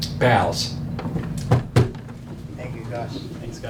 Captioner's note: tapping